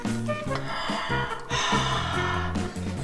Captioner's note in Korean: 심호흡 소리